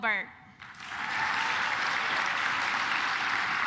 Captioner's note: claps